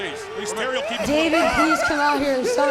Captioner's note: overlapping chatter